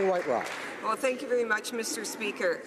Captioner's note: applause